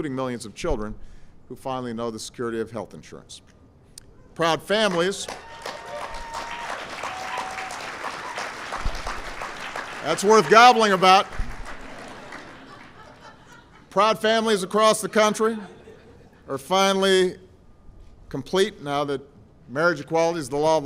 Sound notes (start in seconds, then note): 5.4 applause; 11.8 laughter